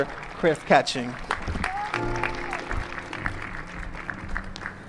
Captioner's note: applause